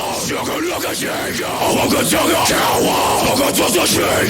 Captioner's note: throat vocalizing